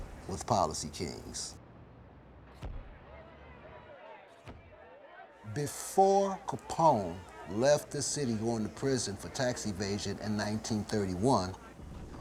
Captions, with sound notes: with Policy Kings. [crowd yelling] Before Capone left the city, going to prison for tax evasion, in 1931,